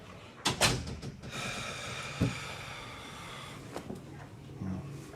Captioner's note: Ron sighs